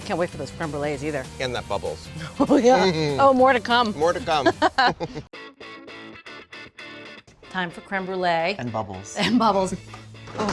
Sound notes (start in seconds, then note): 4.2 both laughing; 5.6 bright music